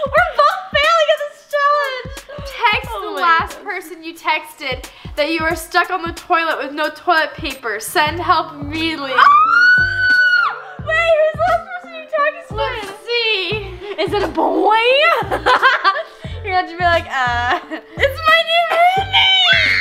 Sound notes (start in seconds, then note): 9.1 screams; 15.6 laughs; 19.5 laughs